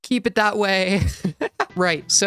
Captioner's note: laugh